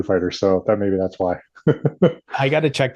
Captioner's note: laughs